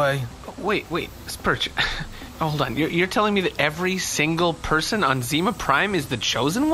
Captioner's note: sighs